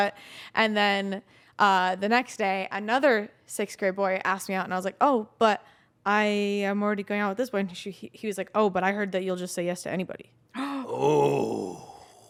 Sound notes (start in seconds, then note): none